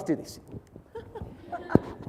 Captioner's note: audience laughs